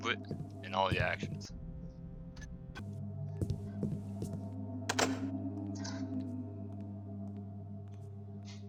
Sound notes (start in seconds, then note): 4.8 doorknob loudly clicks